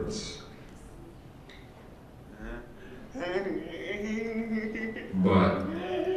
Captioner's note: computer voice